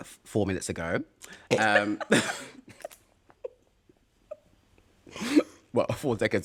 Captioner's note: laughter